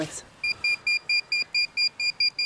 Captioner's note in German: Piepsen